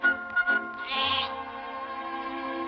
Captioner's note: bleating